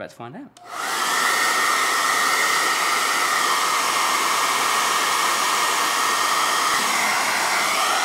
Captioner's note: pause. Hair dryer blowing